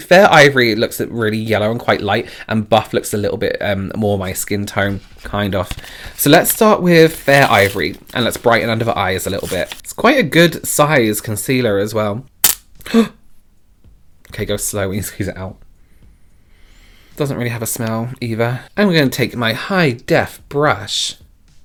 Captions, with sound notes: Fair ivory looks really yellow and quite light and buff looks a little bit more my skin tone, kind of. So let's start with fair ivory and let's brighten under the eyes a little bit. It's quite a good size concealer as well. (gasps) Okay, go slow we you squeeze it out. (sniffing) Doesn't really have a smell either. I'm going to take my High Def brush.